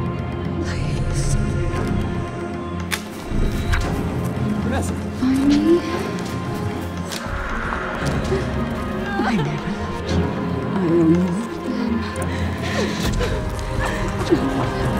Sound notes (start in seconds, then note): 2.8 twigs snapping; 5.8 woman crying; 12.3 woman crying